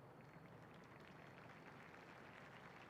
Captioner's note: clapping